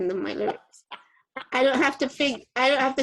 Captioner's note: laughing